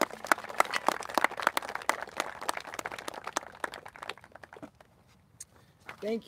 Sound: applauses

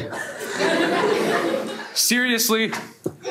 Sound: everyone laughs

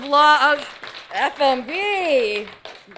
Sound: audience applauding

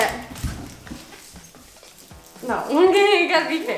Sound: whispering

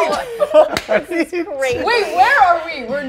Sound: cast laughing

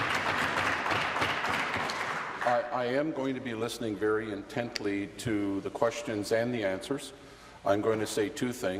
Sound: applause

